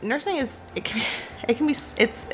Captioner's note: sighs